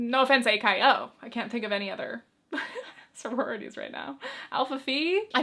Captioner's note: chuckles